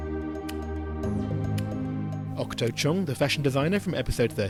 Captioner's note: voiceover